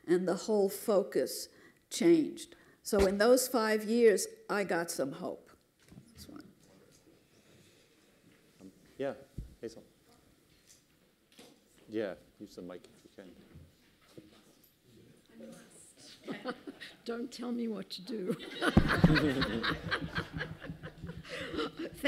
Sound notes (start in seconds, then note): 18.3 laughter; 18.3 laughs